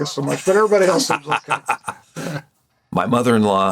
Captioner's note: Gould laughs